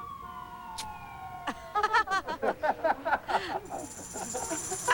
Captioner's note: laughter